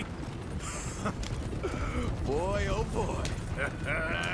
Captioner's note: laughs